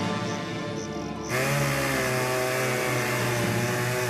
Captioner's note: chainsaw revving